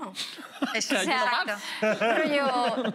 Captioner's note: laughs